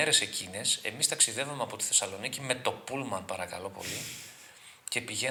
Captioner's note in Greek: χαχανίζει